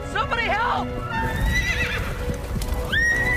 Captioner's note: neighs